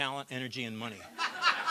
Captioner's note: laughter